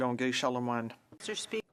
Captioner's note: speaking French